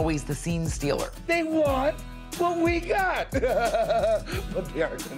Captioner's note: laughs